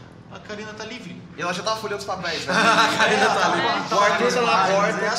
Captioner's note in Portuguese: Risadas